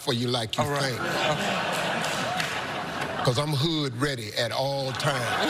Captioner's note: crowd laughing